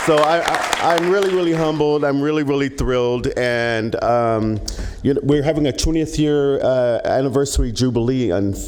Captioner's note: applause